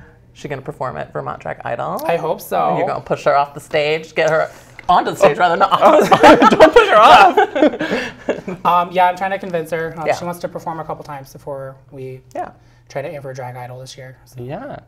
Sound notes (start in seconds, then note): 5.6 laugh